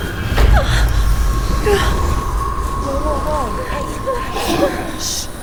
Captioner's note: Allison mutters fearfully